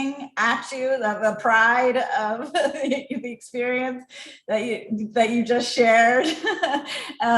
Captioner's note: laugh